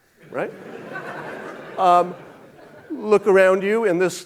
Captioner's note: audience laughing